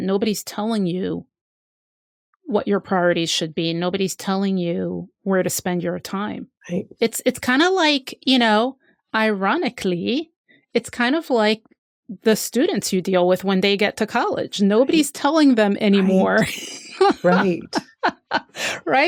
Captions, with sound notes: Nobody's telling you what your priorities should be. Nobody's telling you where to spend your time. It's kind of, ironically, it's kind of like the students you deal with when they get to college. Nobody's telling them anymore. [LAUGHS]